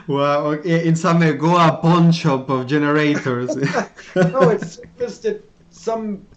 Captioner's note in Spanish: Risas